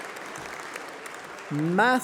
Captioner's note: applause